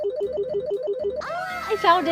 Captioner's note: phone ringing